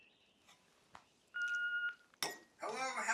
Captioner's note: machine beeping